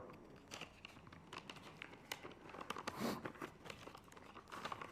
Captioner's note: paper rustling